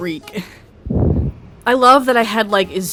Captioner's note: breathing into mic